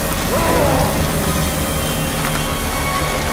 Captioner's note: William screams; electricity crackling; tense music